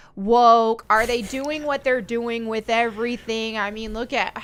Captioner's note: chuckles